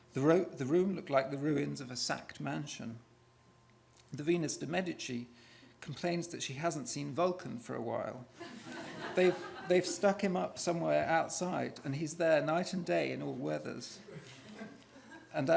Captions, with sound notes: The room looked like the ruins of a sacked mansion. The Venus de Medici complains that she hasn't seen Vulcan for a while. [laughter] They've stuck him up somewhere outside, and he's there night and day in all weathers.